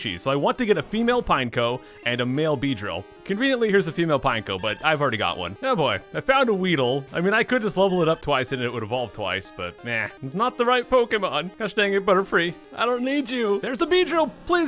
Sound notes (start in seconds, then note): 10.3 sorrowfully